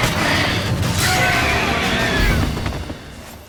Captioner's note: shriek